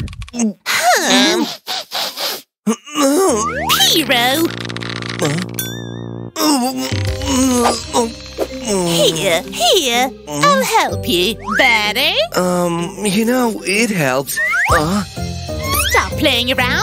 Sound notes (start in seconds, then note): 2.6 moaning again